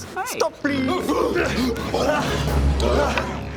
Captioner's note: urghh rrrgh rrgahh